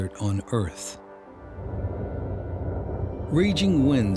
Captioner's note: wind